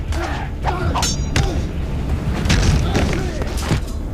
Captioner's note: thudding